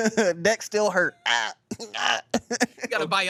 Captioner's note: everyone laughs; groans